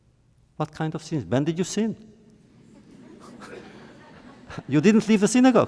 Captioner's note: laughter